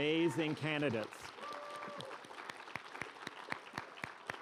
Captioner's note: applause